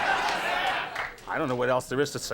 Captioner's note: audience laughs